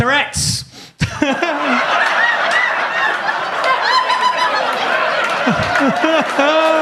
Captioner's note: audience laughs; audience claps